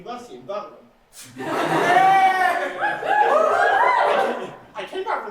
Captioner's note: mixed reaction, audience boos and cheers